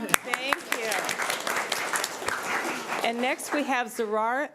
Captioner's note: crowd applauding